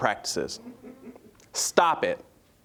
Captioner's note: audience chuckling